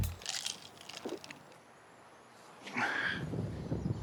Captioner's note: gulps, sighs